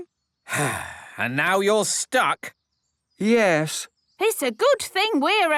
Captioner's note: sigh